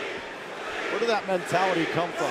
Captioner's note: crowd cheering